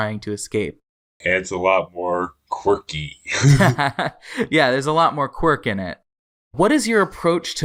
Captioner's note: laughs